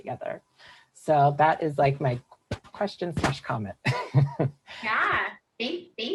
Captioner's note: chuckles